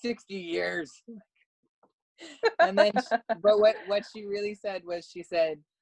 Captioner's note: laugh